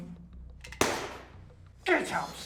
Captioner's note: gun shot